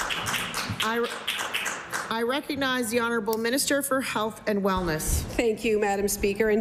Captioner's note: some Applause